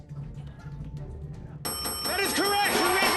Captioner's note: bell dinging